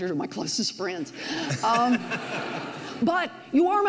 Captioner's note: audience laughs